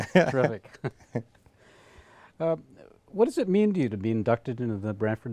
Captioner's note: laughter